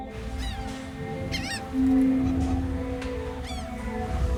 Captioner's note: seagulls crying